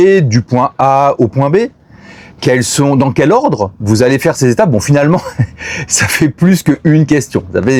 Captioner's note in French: rires